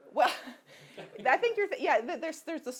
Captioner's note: laughs